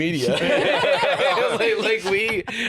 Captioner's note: all laugh